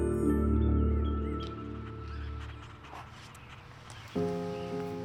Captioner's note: birds chirping